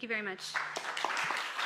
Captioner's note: applause